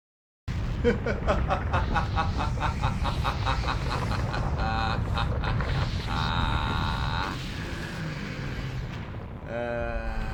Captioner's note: maniac laughter